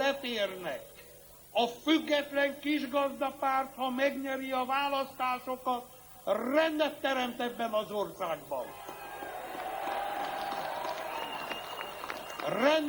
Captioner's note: applause